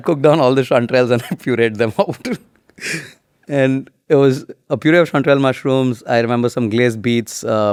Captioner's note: chuckles